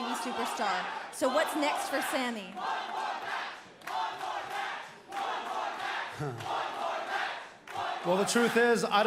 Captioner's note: crowd cheering